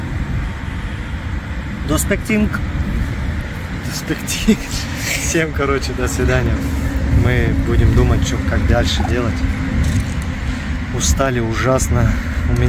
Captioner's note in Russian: говорит на турецком